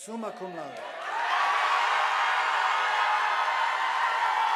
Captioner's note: audience applauding